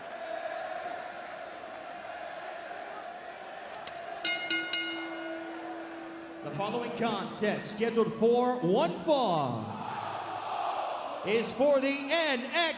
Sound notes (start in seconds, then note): 0.0 crowd cheering; 4.2 bell ringing; 9.2 crowd cheering